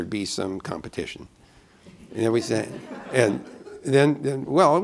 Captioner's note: laughter